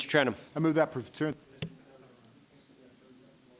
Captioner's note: speaking faintly